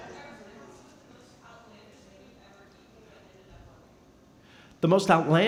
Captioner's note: speaking softly